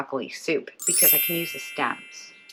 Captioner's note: Tinkerbell chimes